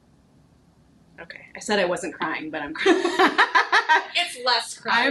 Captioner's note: laughing